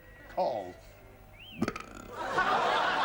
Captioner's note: belches; laughter